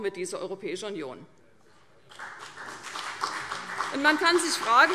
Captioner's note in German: Beifall CDU und BÜNDNIS 90/DIE GRÜNEN